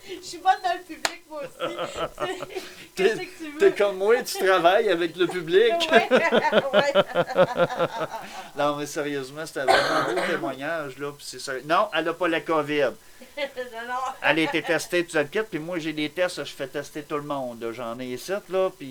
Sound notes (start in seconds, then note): 5.9 laugh